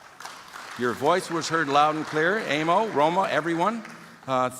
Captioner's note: applause